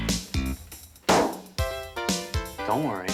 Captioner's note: burst